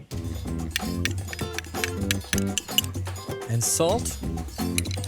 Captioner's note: spoon tapping glass